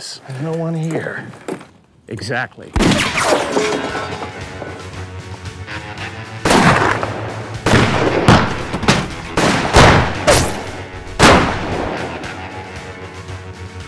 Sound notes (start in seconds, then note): 2.8 gun fires; 3.8 suspenseful western music